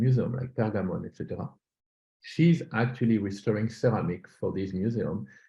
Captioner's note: german